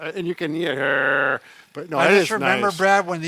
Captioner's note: voice shakes